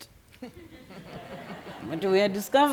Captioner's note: attendants laughing